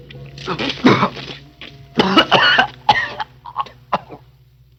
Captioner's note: Joseph coughing